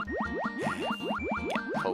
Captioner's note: sigh